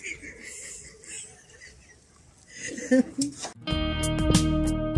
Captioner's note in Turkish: kahkaha